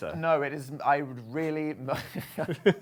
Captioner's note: laughing